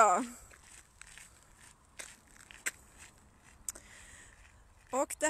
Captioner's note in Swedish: Fotsteg i gruset